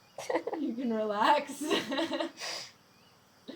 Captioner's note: laughing